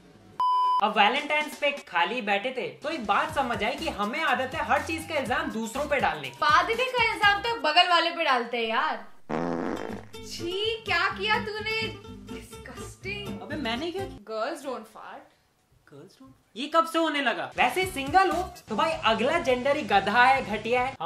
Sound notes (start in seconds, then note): 9.1 someone farts